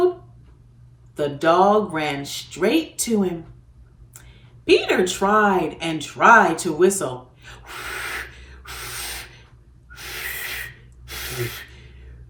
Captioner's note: blows out without whistling